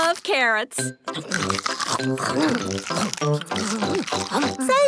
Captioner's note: crunch